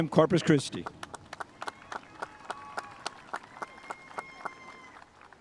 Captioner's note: spectators applauding